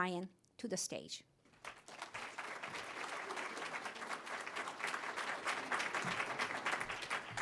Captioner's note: applause